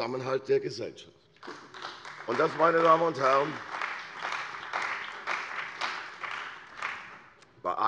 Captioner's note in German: Beifall bei der CDU und dem BÜNDNIS 90/DIE GRÜNEN